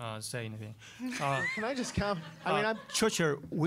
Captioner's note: audience laughing